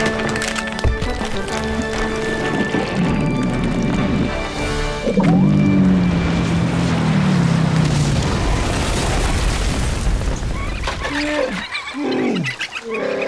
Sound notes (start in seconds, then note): 0.0 creaking; 7.9 splash; 10.4 chirping; 11.0 wookiee call